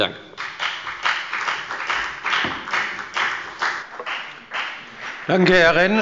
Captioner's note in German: Beifall bei der FDP